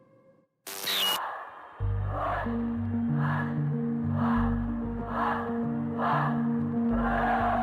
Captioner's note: crowd chants; soft tense music